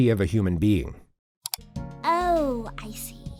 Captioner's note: click